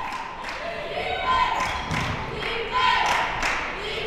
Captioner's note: cheering